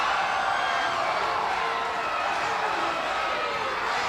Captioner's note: crowd cheering